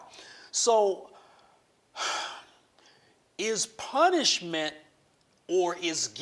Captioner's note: sighs heavily